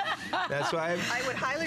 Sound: laughter

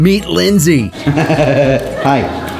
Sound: laughs

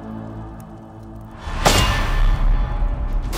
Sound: metal clanks

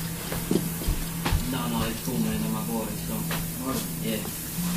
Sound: TV on in the bakground

